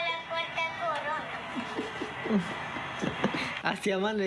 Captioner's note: laughing